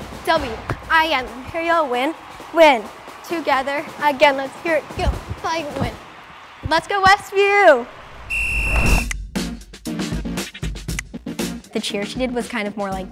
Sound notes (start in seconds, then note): 8.1 whistle blowing; 9.0 energetic music; 10.9 finger snapping